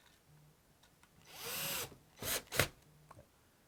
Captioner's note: drilling